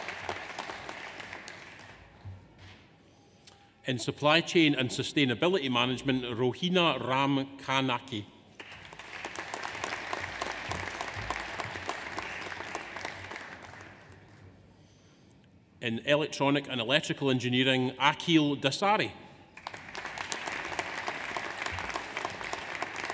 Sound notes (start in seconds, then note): 0.0 audience applauds; 0.0 audience cheers; 8.6 audience applauds; 19.6 audience applauds